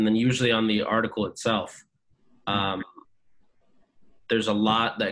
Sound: hums

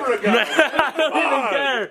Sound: laughs

